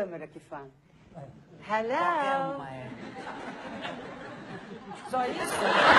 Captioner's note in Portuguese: plateia ri